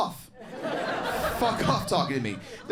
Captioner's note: crowd laughs